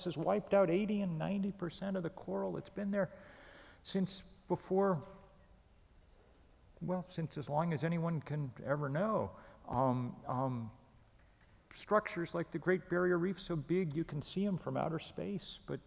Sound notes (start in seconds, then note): none